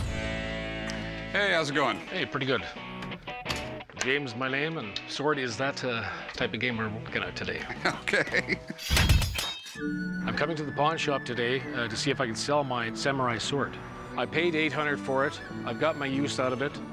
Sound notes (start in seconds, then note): 7.5 laughs; 8.8 blades clanging